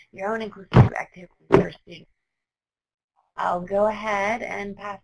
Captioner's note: audio distorting